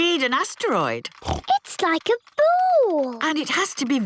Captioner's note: snorts